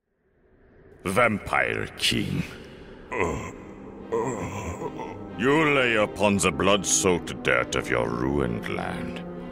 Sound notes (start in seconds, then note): 3.0 groaning